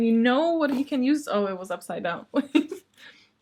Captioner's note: laughs